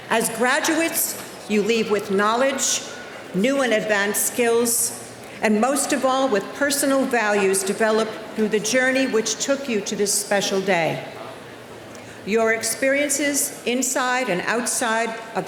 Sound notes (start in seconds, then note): none